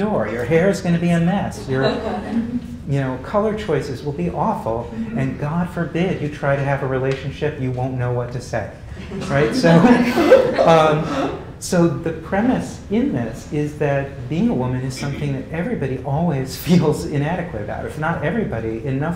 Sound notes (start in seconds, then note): 9.0 laugh